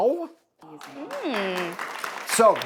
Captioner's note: clapping